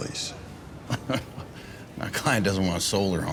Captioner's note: chuckles